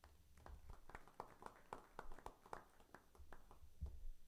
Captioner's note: crowd applauding